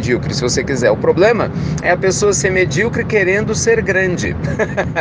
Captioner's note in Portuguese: risos